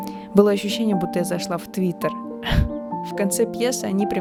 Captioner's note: laughs